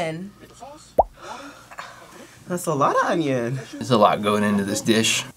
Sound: sighs

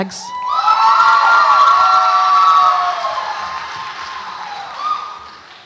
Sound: audience applauds and cheers

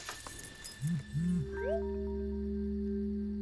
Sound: phone buzzes, chirps

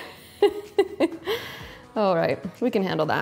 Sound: laughs

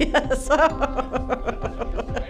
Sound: laughs

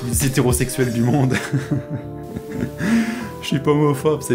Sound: laugh

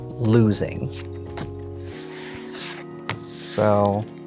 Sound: cards slapping and sliding

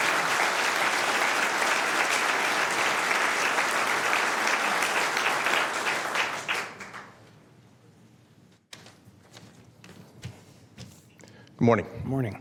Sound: applause

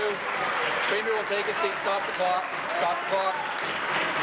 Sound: applause

